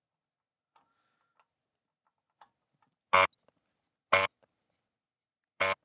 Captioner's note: silence